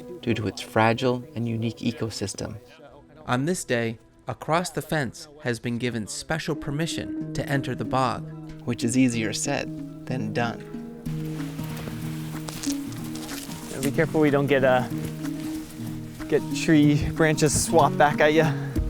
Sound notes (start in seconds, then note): 10.3 leaves rustling; 11.3 gentle music